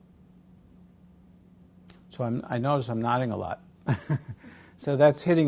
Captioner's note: laugh